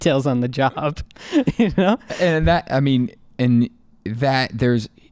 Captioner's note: laughing